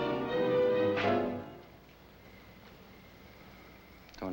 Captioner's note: slapping